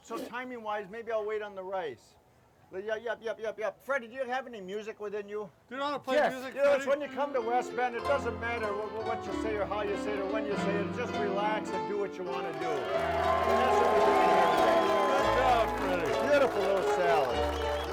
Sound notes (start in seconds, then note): 12.3 crowd cheering; 17.4 piano music